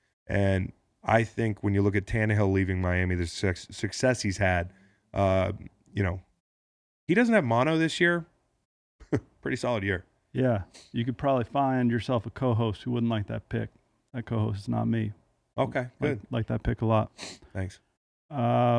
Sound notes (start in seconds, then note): 8.9 laughs